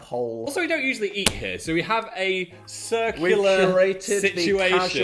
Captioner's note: palms thumping